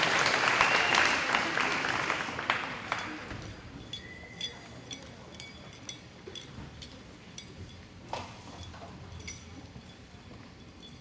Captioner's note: audience applauding